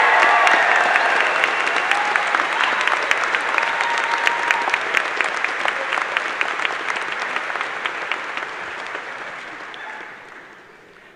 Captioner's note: cheers and applause